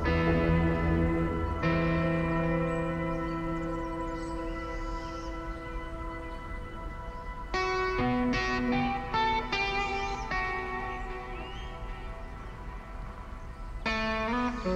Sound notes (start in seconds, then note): 6.5 birds Chirping